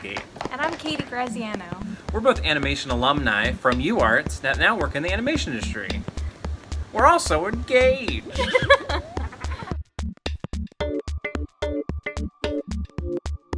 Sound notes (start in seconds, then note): 8.2 both laughing; 10.3 bright music